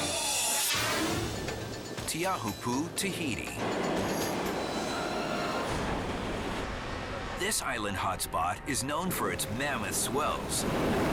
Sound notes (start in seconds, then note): 0.5 air whooshes; 0.9 bright tense music; 4.3 waves crashing